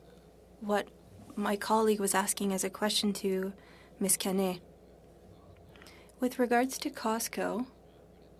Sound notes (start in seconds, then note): 1.3 speaking French